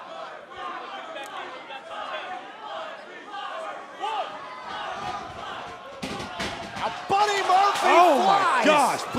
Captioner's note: fans chanting